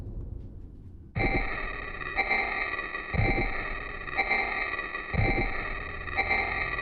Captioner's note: soft musical score; eerie distorted music; heartbeat thumps